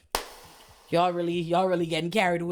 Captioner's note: gunshot